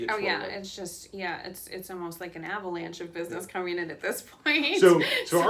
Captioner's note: laughs